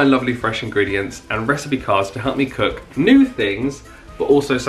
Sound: people chatting

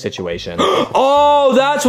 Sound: Bowser gasping

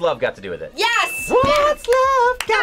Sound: audio dings

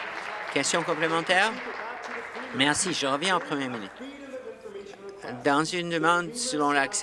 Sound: applause

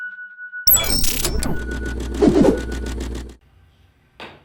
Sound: digital static

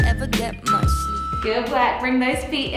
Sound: timer beeping

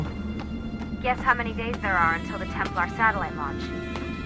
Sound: Lucy through radio

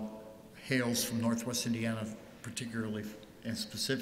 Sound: none

